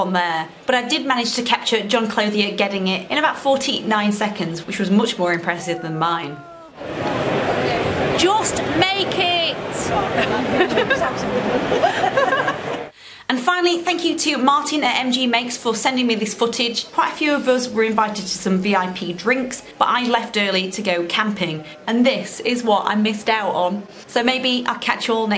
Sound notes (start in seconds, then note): 9.4 laughs